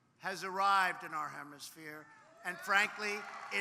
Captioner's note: applause